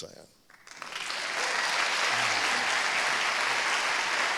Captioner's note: applause